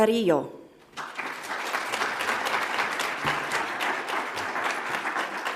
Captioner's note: audience applauds